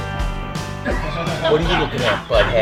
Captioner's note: trumpet playing; laughing